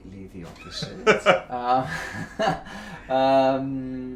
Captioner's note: laughing